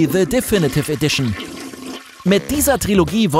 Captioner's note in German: Klospülung